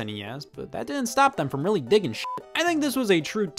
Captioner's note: beep